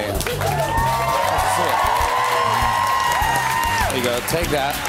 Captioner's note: cheers and applause